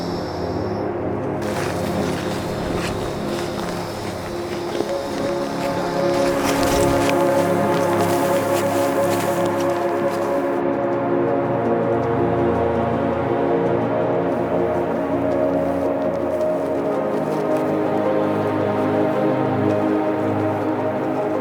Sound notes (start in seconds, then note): 2.3 feet clacks; 4.9 gentle music continues; 17.8 gentle music continues